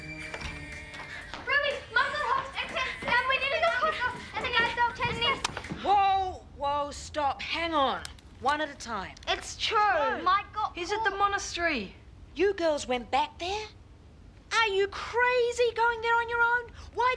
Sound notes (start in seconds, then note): 0.0 muffled rock music; 1.4 kids talking over each other